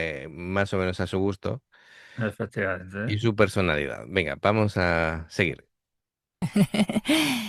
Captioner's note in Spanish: risas